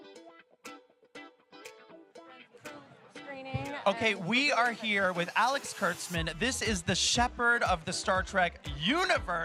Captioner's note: chanting "lower decks"